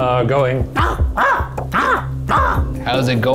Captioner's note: squawking